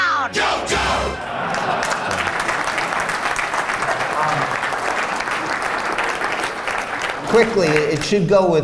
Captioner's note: laughing and applause